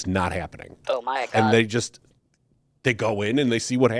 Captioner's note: robotic "Oh my God" plays